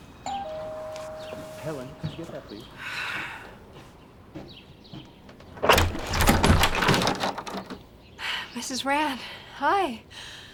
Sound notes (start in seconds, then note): 0.2 doorbell ringing; 5.2 door clicking